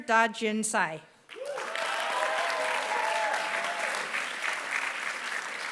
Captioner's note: applause